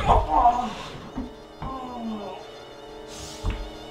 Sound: BEN groans in pain

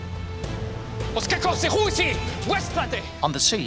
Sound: Themistocles shouting in foreign language

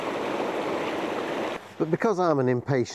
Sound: bubbles

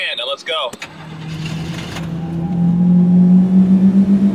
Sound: movie mobile engine revs

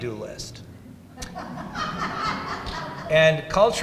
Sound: audience laughs

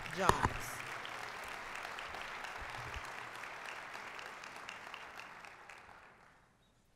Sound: applause

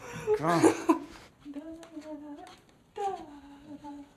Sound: humming

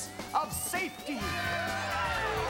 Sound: cheering

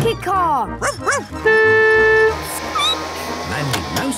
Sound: barking; honking; squeaking

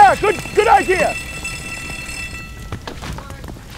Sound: ringing stops

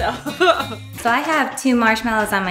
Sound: laughs

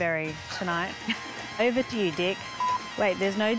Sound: beep

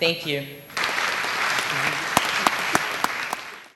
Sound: applause

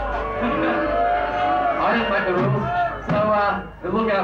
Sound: crowd hollering

